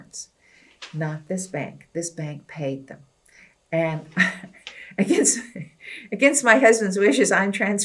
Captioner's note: laughs